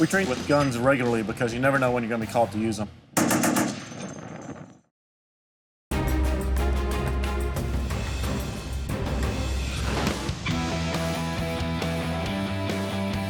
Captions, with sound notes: - We train with guns regularly because you never know when you're gonna be called to use them. (machine gun firing) (ominous music) (rock music)